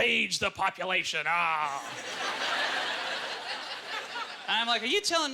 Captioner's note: audience laughter